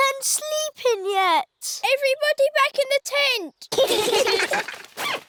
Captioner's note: all giggling